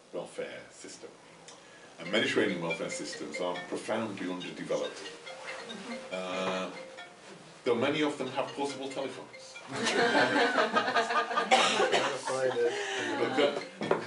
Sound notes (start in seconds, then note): 5.9 cell phone ringing; 9.7 laughter